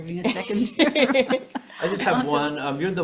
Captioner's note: all laughing